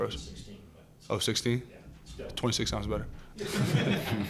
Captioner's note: laughter